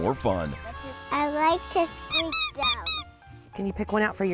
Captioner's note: toy duck squeaking